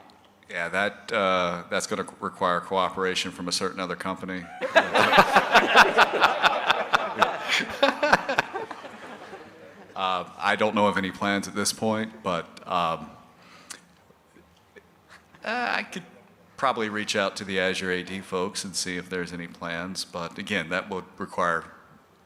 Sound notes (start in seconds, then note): 8.2 laughter